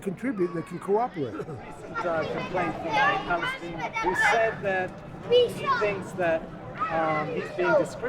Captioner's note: voiceover